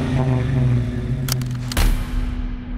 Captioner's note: gun clacks; intense music